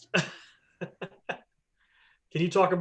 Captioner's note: laughter